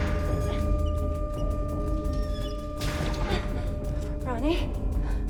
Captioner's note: escape hatch squeaking